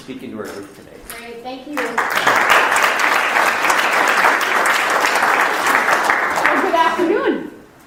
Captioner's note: audience applauding